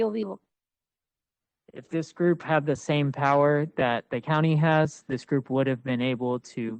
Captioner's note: speaking Spanish